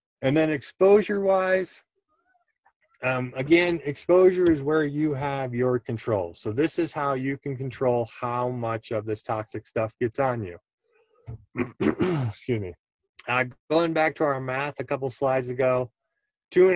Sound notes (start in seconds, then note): 11.5 clears throat